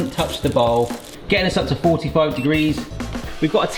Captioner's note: thermometer beeps